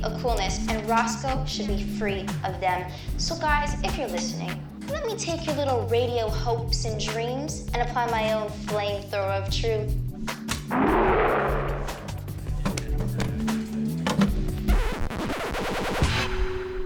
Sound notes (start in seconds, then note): 10.3 cougar roars; 14.3 sound effect: Record scratches